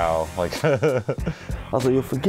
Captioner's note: laughs